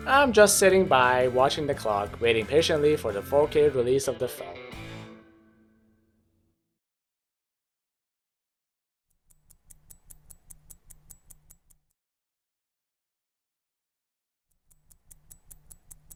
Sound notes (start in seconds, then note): 12.6 watch ticks intensify